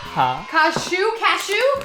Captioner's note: speaking in Hindi